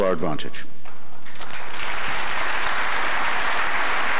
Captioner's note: applause